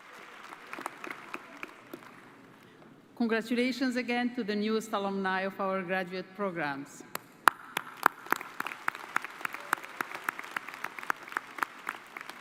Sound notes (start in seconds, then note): 0.0 cheers and applause